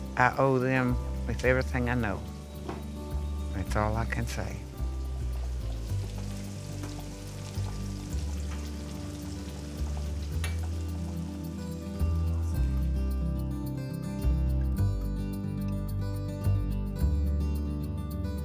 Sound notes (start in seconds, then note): 5.2 food sizzling